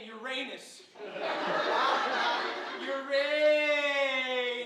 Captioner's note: audience laughing